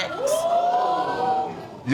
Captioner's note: audience exclaims